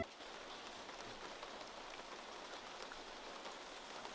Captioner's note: rain pattering